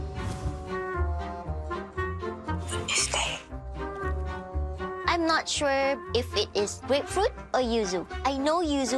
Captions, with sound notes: - (Whispers) What is that? - I'm not sure if it is grapefruit or yuzu.